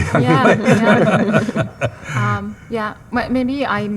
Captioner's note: attendees laughing